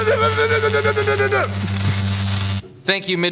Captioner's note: electrocuted sounds